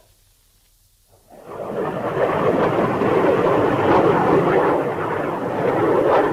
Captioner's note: plane engines roaring